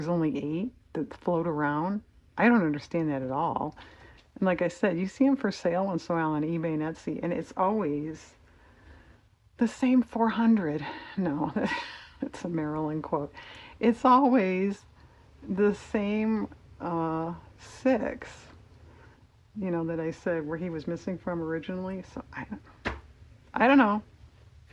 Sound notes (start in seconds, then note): 11.2 laughs